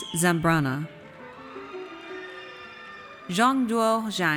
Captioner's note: audience cheers